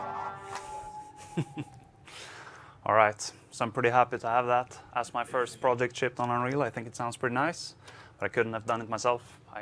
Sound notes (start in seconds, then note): 0.6 laughter